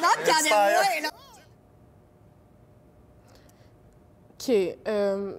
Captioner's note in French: Silence